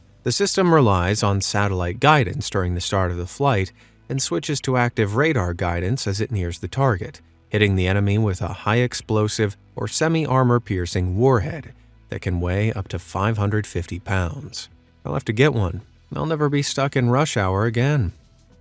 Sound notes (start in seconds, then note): none